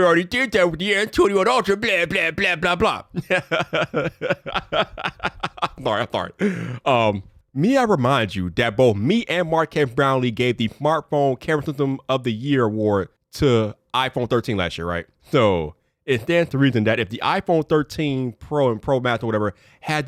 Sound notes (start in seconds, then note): 3.1 laughing